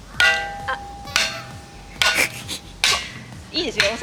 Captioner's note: laughs